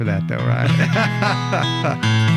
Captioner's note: laughing